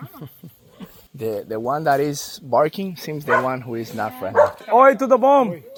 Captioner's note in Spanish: Hablando inglés